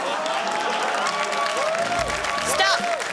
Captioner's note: cheering, applause